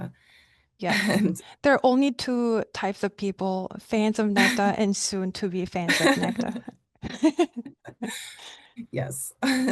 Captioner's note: both laughing